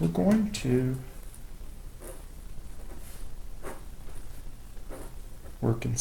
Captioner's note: writing Sounds